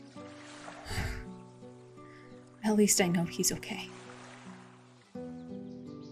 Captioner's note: breathes out